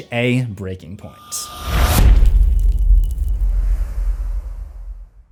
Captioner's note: impact